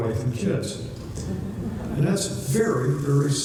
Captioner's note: laughter